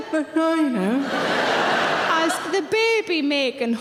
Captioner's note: audience laughing